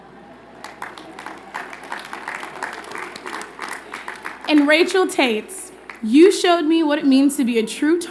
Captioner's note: applause